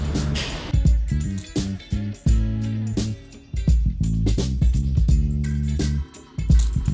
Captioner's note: catchy music; lube can hisses